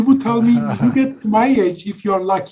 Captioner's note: laughing